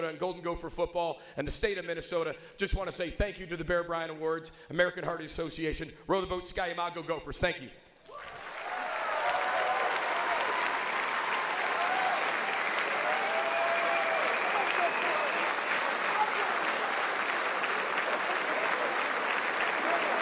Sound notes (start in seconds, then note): 8.5 audience applauds; 8.5 audience cheers